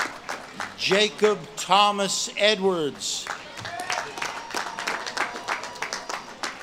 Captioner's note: audience claps and cheers